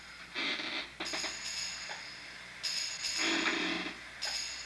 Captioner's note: creaky stairs